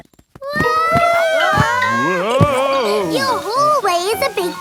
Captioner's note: all yelling